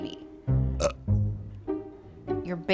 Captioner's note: burps